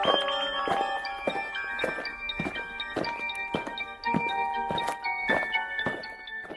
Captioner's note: eerie music; aliens marching